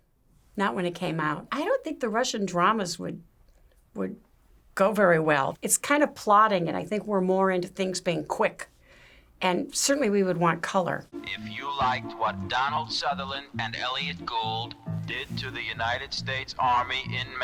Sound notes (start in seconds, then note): 11.2 voice-over